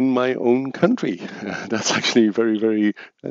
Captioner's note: chuckles